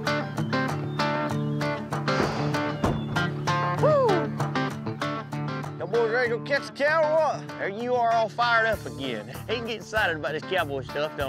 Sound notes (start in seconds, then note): 2.1 doors close